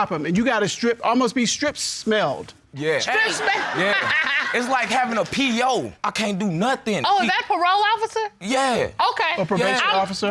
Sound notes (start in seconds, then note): 3.2 laughs